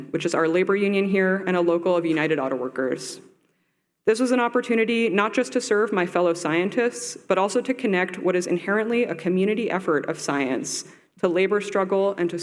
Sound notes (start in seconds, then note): none